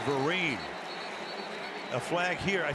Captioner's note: whistle